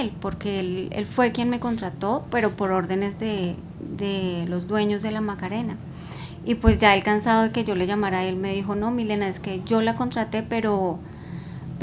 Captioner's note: speaking spanish